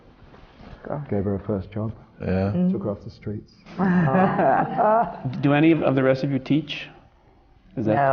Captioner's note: laughter